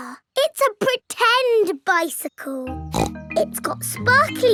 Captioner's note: snorts